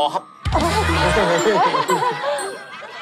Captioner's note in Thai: หัวเราะ